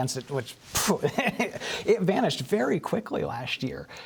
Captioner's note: laughter